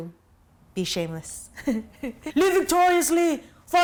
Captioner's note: laughs